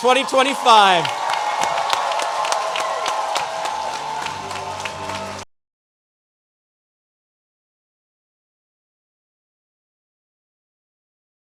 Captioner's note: applause